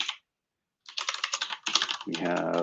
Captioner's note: typing